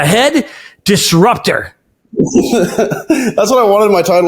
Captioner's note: laughing